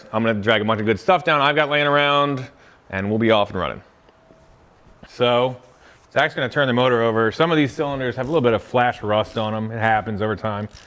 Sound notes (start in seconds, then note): 9.1 ratchet clicking